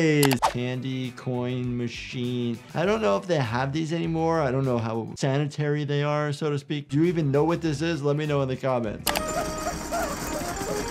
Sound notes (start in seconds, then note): 0.2 mouse clicks; 9.0 mouse clicks; 10.7 gumball machine rattling